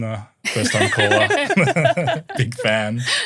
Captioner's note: everyone laughing